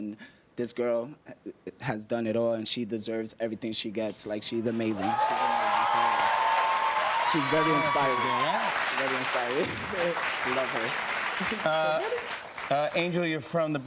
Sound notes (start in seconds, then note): 5.3 cheers and applause